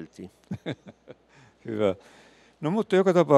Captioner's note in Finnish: naurua